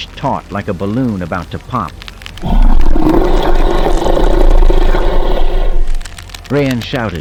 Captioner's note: Hutt Croaking